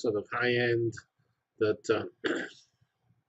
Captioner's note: cough